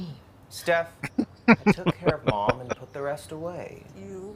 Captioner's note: laughing